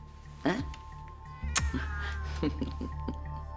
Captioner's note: cat meows; lips smacking; Elisabeth giggles